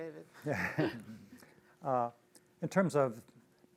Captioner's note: both laugh